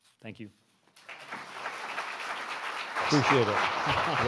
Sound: audience applauding

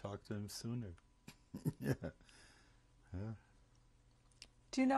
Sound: laughs

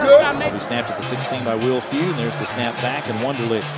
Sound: voiceover

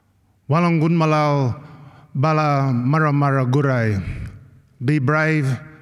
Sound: non-english speech

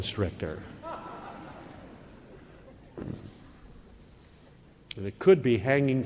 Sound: laugh

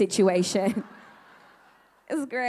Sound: audience laughing

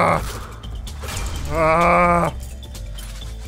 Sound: whale noises

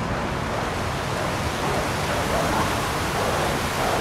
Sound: dogs barking and howling; water sounds

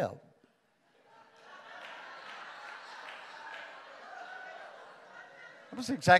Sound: congregation applauds

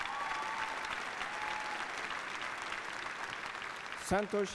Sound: applause

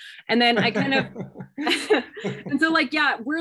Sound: laughter

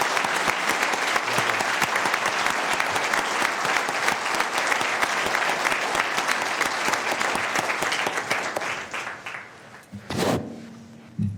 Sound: applause

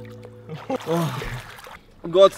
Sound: elevator music; water splashing

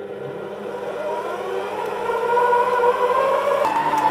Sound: mixer whirs

